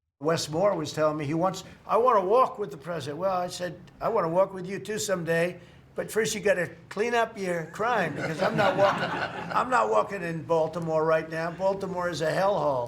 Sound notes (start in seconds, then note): 7.7 laughter